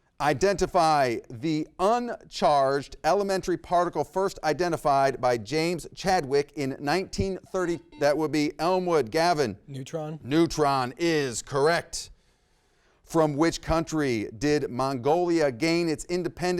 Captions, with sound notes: Identify the uncharged elementary particle first identified by James Chadwick in 1930- (buzzer rings) That would be Elmwood. Gavin. - Neutron? - Neutron is correct. From which country did Mongolia gain its independence